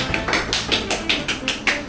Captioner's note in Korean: 짝짝짝